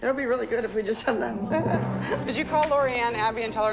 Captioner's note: chuckles